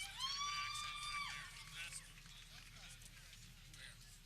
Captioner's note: people cheering